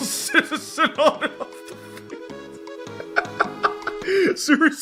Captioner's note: laughs in disbelief